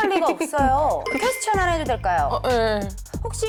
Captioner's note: sound indicating a question